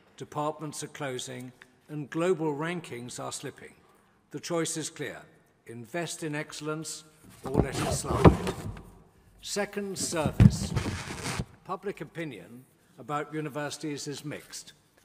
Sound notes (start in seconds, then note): none